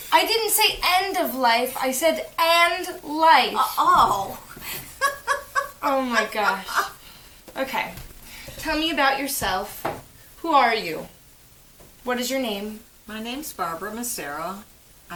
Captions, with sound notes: I didnt say END OF LIFE. I said AND. LIFE. Ohhh [sweet grandma chuckle] he he he he he he Oh my gosh. Okay Tell me about yourself. Who are you? What is your name? My name's Barbara Massaro